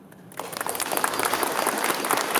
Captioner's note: applause